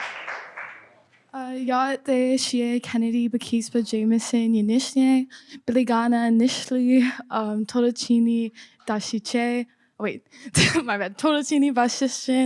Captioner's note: introduces self in Navajo